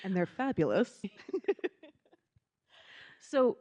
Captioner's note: giggling